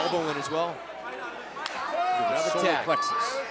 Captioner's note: crowd chatter